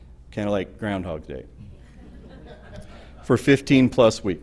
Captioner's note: laughter